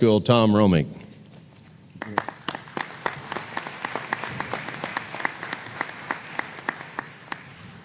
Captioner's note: applause